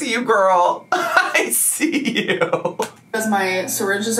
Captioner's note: laughs